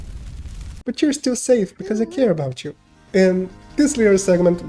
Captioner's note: little snake souls burning in the eternal fire sounds; uwu sounds worthy of free therapy